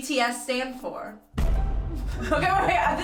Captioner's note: explosion